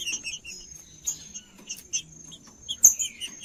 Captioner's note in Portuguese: trinca ferro cantando